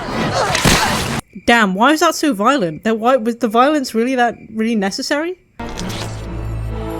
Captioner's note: stutters